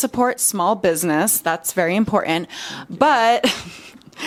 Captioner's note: laughs